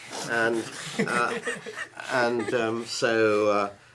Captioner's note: panelists laughing